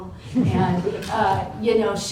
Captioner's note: laughter